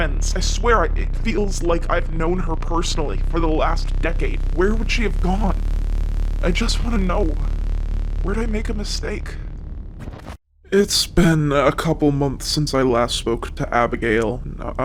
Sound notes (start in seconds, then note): 9.7 static